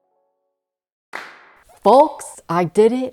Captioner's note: clapping